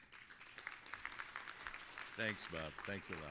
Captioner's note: applause